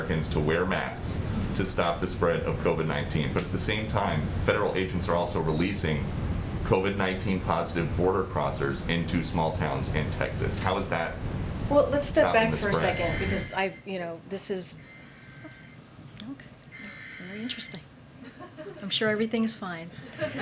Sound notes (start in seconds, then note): 14.1 weather alert sounds; 20.0 laughter